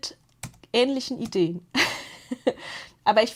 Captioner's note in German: gelächter